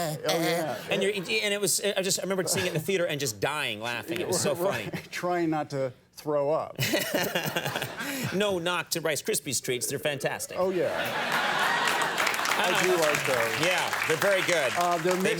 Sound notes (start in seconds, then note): 6.8 Conan laughing; 10.9 audience cheering